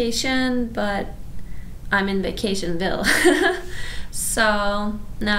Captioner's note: laughs